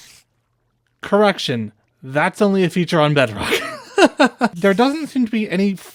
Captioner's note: laughter